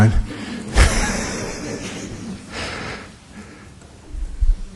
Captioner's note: laughs